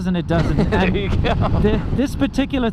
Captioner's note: both laugh